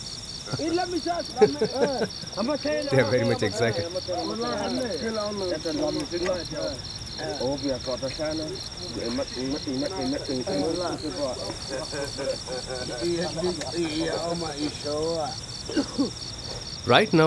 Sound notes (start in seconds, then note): 4.4 speaks in Hadza